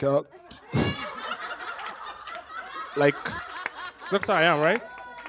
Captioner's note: laughter